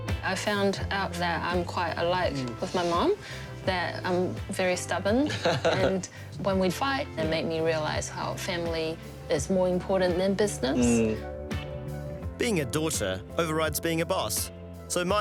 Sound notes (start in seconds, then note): 10.7 laughs